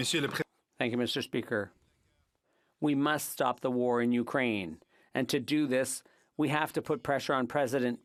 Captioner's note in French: voix de l'interprète